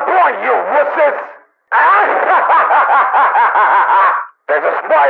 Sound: laughs maniacally

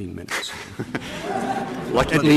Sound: laughter

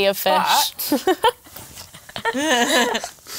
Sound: laughter

